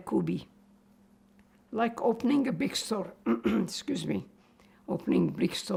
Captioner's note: clears throat